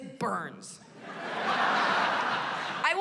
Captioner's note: laughter